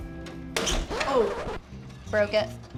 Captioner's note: record scratching